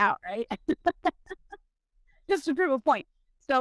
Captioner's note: laughs